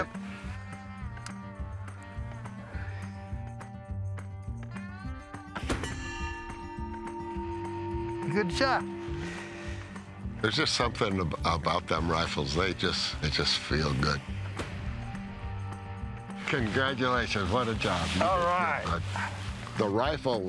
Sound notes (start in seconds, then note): 5.6 gunshot; 8.8 metal rings